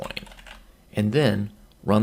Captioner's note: typing